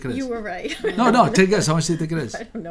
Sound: voiceover; laughs; voiceover

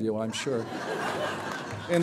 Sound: laughter

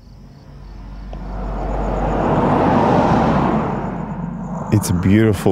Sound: car drives past

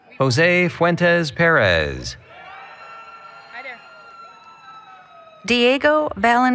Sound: applause, Cheering

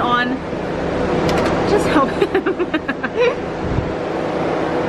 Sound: laughs

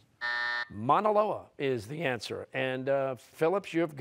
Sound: buzzer

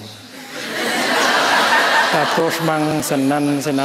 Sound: loud laughter

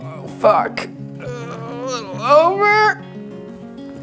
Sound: groaning

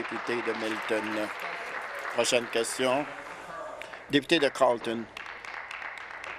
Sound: applause

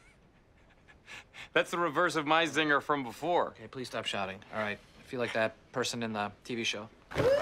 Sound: laughs

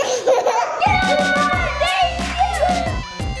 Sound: laughing; yelling; laughing

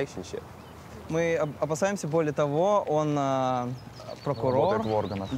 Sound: speaking in foreign language

